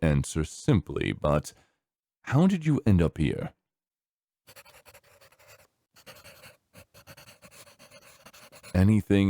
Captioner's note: pencil scribbling